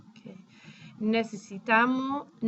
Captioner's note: speaking spanish